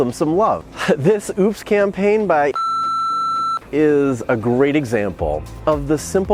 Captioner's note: beep